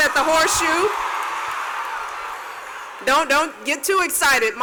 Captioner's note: cheers and applause